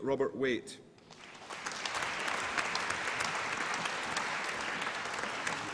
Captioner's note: applause